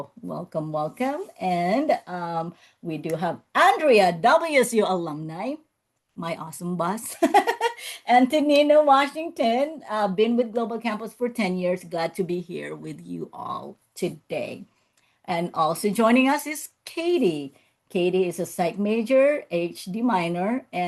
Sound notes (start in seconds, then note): 7.4 laughs